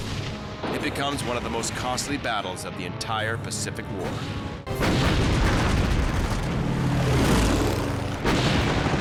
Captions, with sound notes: It becomes one of the most costly battles of the entire Pacific War. [cannons firing]